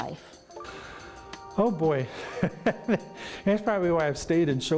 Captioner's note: laughing